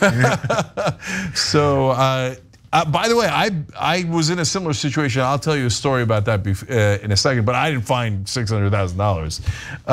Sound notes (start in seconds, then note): 0.0 laugh